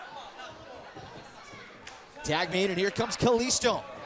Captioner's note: crowd chatter